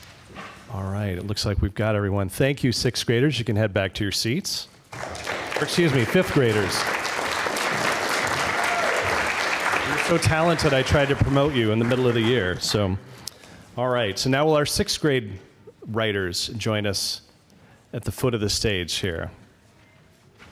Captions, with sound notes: It looks like we've got everyone. Thank you, sixth graders. You can head back to your seats. [APPLAUSE] Excuse me, fifth graders. You're so talented. I tried to promote you in the middle of the year. Now will our sixth grade writers join us at the foot of the stage here?